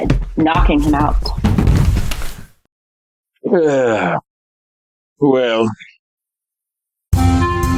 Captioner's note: sound of LOMBERT falling to the floor; PLUMMER Sighs